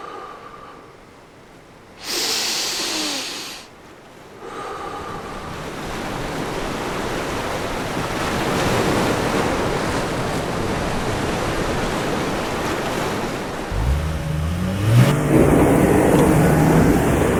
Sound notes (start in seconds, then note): 0.0 deep slow breaths; 4.6 sound of the ocean gets louder; 13.7 car revs and tyres screech